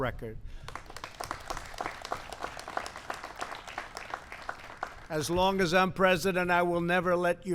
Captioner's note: applause